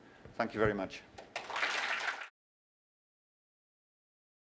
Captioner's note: applause